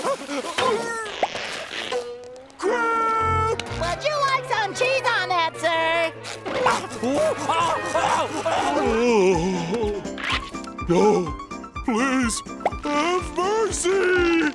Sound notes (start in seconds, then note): 6.1 grunting in pain; 7.4 groaning